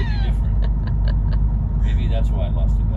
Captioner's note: laughing